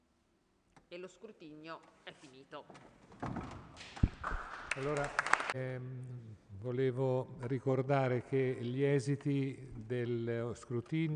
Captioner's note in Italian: Applauso